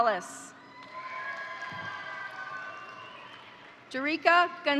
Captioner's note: crowd cheering; crowd applauding